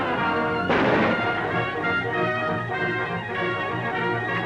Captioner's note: gunshot